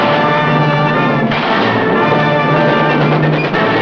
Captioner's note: blast; gun bangs; instrumental music